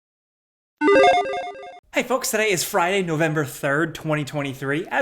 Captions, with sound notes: (electronic bloop) - Hey folks, today is Friday, November 3rd, 2023.